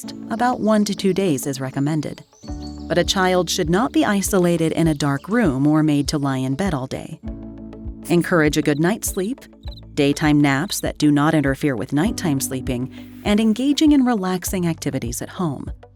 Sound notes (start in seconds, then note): 2.5 birds chirping; 2.5 pleasant music